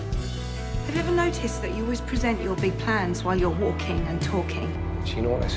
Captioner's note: voiceover